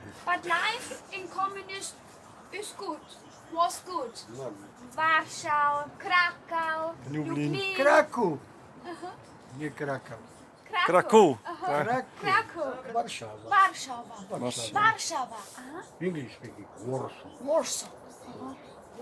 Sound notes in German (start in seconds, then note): 6.9 auf Deutsch; 9.2 Aussprache auf Polnisch; 14.3 Aussprache auf Polnisch